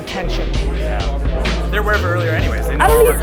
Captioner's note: chatter